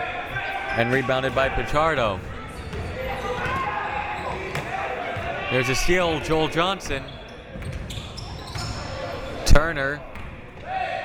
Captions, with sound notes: And rebounded by Pachardo. (ball pounding) There's a steal, Joel Johnson. Turner.